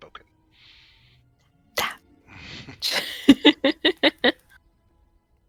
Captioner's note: quietly; laughter